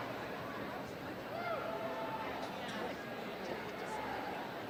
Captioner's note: audience murmuring